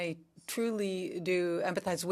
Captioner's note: speaking french